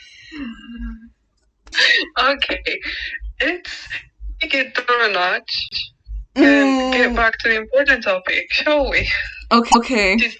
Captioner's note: laughing